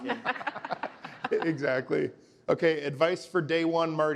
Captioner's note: laughter